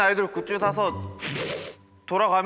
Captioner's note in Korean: 휘리릭